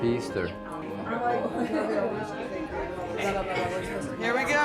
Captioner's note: background chatter